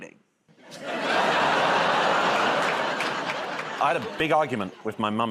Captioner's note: laughter